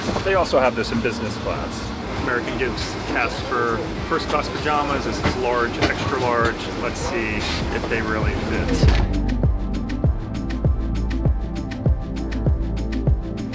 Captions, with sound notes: They also have this is Business class. American gives Casper first-class pajamas. This is large-extra large. Let's see if they really fit. (door closing) (pulsing electronic music)